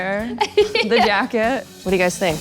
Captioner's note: giggles